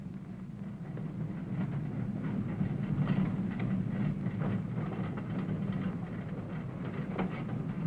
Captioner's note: trolley rattling